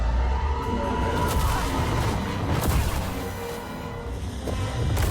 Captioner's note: lightsaber whooshing